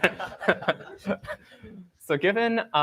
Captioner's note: laughter